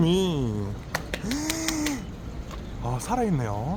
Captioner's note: applaud / Surprised